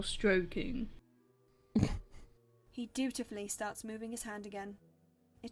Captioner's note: Regulus snorts